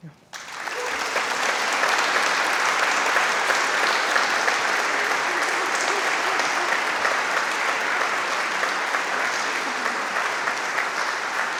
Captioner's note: applause